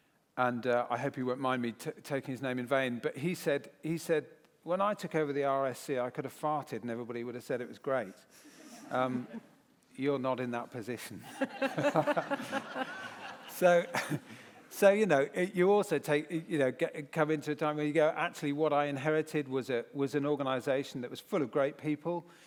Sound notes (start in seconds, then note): 11.2 laughter